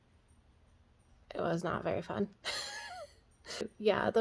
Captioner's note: laughs